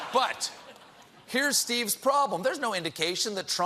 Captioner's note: laughter